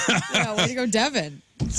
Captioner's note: laughing